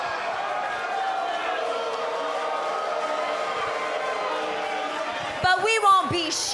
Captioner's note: cheers & applause; cheers & boos